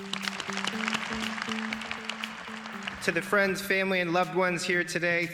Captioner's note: applause